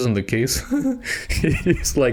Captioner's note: laughs